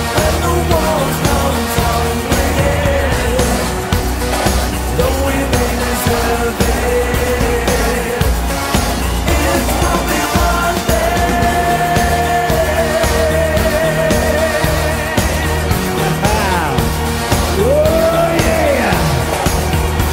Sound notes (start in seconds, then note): 16.1 laughs